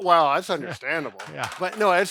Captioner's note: laughs